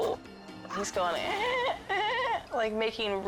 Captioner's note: fox chirping; mimics chirping